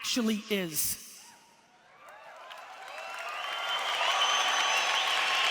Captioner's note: audience cheers